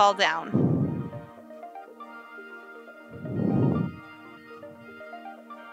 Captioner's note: exhaling rhythmically